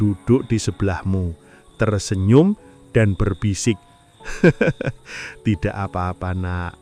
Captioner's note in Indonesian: tertawa